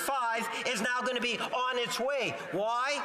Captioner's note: off mic